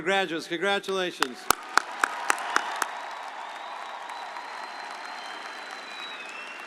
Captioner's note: audience applauding